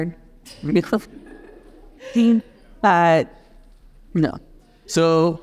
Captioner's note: audience chuckles